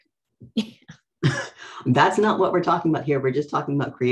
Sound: laughs

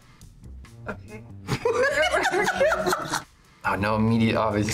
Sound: both laugh

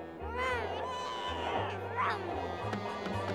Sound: laughing

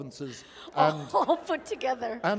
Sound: laughter

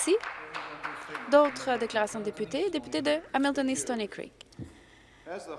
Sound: some Applause

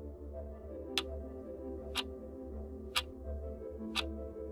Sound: clock ticking

